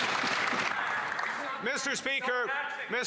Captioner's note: applause